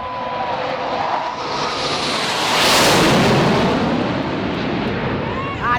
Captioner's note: jets roar